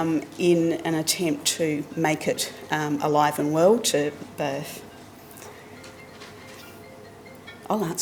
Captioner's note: mobile rings